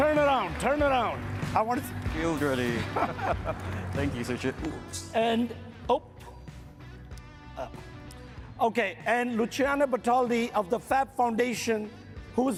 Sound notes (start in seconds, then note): 2.7 both chuckling